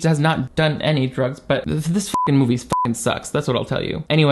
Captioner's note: beep